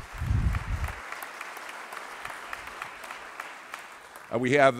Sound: applause

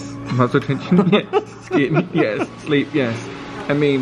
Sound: laughing

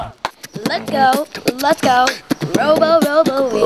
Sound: beat boxing

